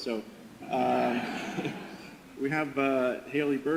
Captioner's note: audience laughter